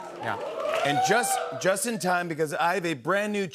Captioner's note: cheers and applause